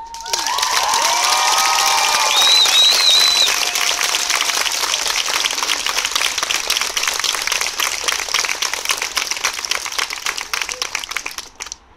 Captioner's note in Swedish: Jubel och applåder